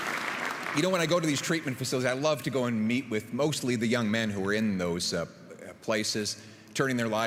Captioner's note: applause